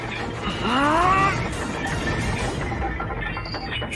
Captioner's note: Invincible roaring; chain rattling